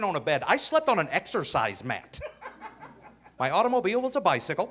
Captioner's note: audience laughing